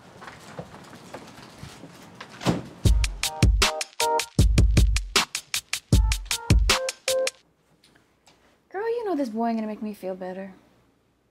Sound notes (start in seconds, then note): 2.3 door slams; 2.8 upbeat music